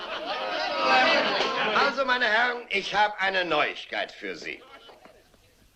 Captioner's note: laughing